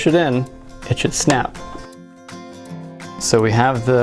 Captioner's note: snaps